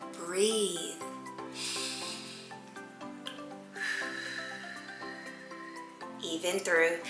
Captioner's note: inhale, exhale